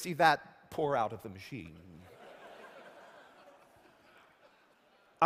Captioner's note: laughter